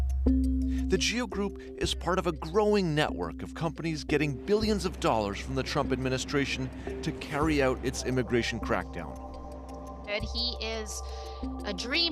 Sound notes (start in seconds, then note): 5.6 horns honking